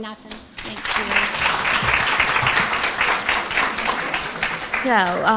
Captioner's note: applause